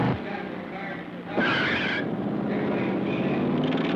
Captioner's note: tires squealing; tires screeching